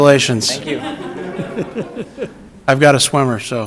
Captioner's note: everyone laughs